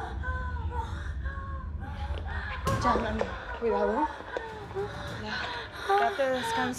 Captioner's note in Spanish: Rosaura sigue jadeando